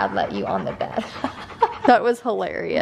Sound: laughing

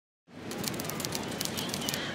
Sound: waves; kids screaming

